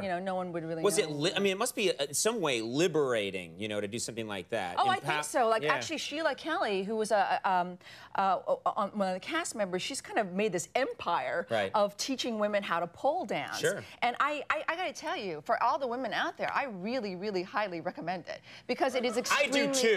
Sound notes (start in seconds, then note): none